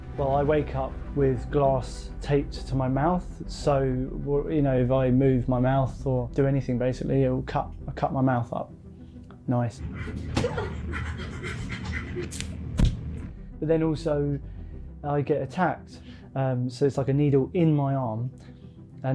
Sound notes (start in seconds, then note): 11.4 actor pants